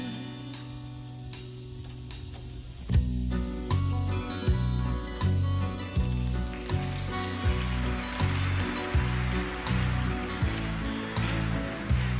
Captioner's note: applause